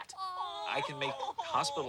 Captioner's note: friends ooh and ahh